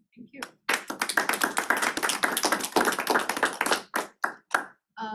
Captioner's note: applause